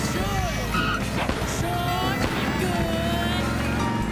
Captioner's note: noisemakers tooting, motorcycle revving